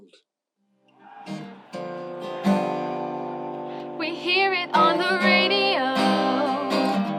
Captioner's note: cat Singing